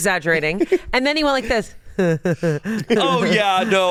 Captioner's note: laughs